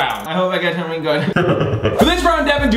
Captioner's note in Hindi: दुष्ट हंसी